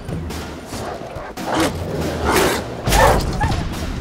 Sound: barking; whimper; thunderous boom

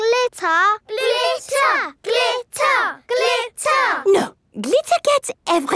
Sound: chanting

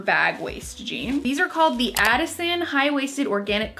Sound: mouse clicks

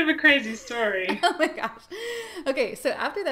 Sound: laughs

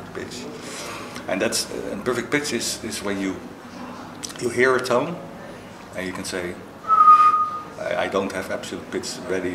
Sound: whistles

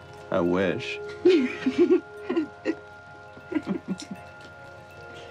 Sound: both laughing

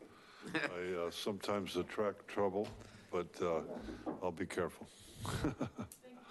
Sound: chuckling

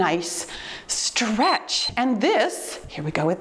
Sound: timer beeps

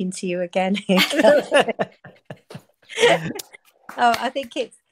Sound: group laughing

